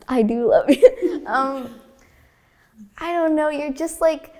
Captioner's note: laughing